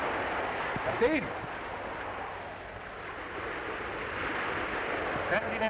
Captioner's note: speaking in foreign language